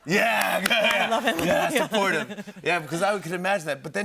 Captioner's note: laughs